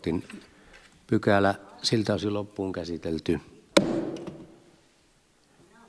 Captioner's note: Nuijan kopautus